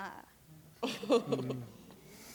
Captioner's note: laughs